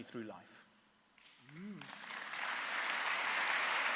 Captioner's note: applause